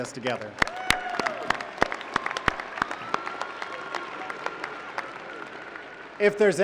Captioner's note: applause